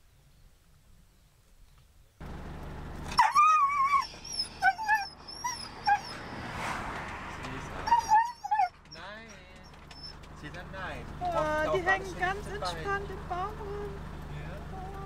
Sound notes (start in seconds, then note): 3.1 Caesar is howling